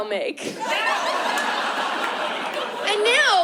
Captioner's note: laughter